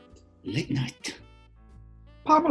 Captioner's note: whispers; high pitched